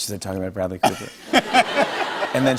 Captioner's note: laughter